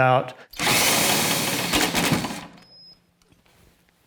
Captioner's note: drill sounds